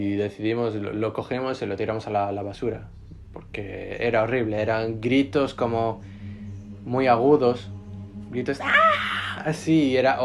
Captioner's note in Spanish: grito más o menos